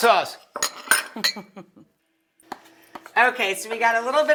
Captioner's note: dishes clanking; Rachel chuckling